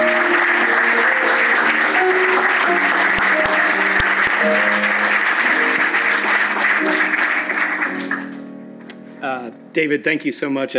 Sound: applause and music

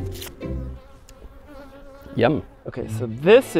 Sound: bee buzzing

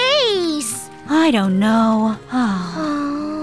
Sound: both groan

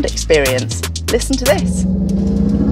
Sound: futuristic acceleration noises

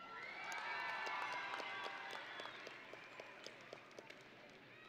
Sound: audience and graduates cheering

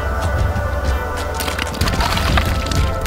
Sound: wet, sloppy, sticky sounds

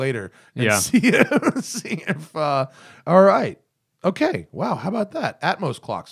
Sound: laughter

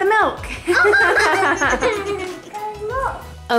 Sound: laughs

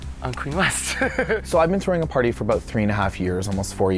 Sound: chuckling

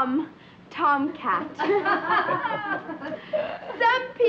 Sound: group laughing

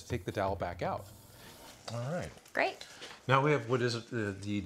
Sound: none

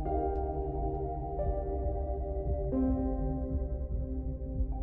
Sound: hearts beating

